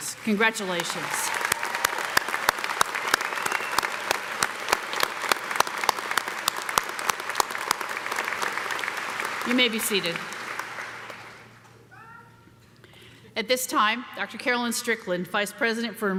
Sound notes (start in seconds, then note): 0.5 audience cheering; 1.0 audience applauding